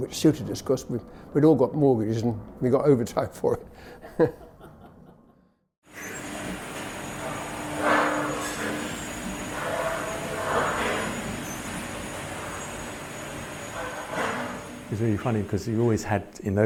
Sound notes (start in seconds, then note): 3.6 laughs; 5.9 machinery whirring and clanking